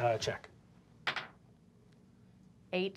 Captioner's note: dice clacking